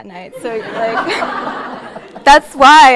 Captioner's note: audience laughing